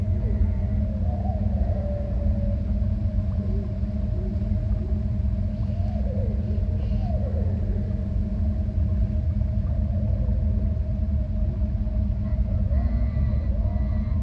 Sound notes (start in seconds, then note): 5.6 animals vocalizing; 5.8 mysterious music